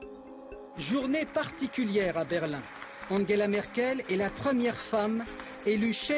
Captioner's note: speaking in foreign language